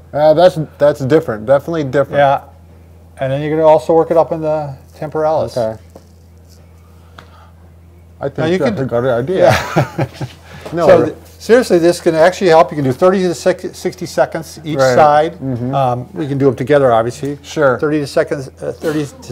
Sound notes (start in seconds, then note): 9.4 laughs